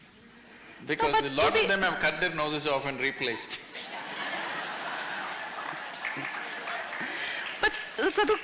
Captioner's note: laughter